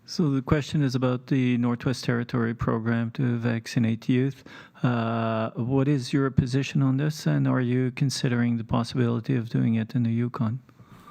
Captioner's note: speaking French